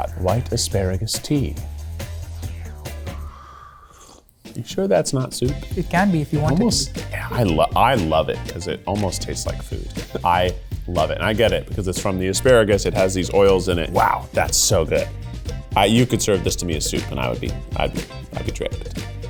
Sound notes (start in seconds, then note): 1.7 upbeat music; 4.1 liquid slurping